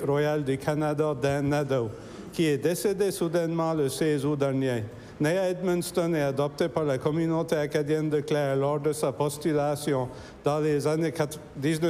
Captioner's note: speaking french